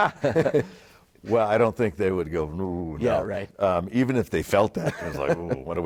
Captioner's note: laugh